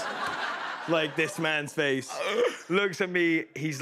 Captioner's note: laughter